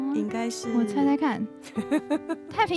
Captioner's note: hehehehe